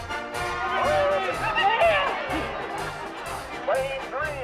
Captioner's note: crowd cheering